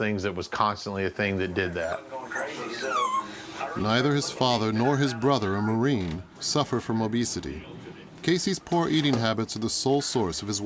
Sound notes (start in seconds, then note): 1.5 chattering; 2.3 dog whining